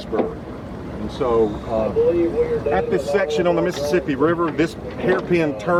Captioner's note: radio noise